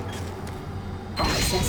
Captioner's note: beeping